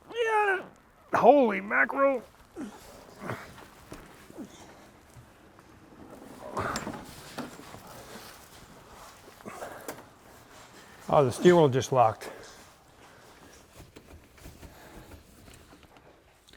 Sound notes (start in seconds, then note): 2.8 breathing heavily